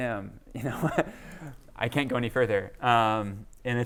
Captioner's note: laughter